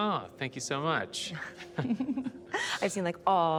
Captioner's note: both chuckle